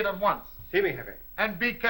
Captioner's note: spanish